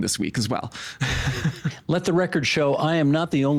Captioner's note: laughing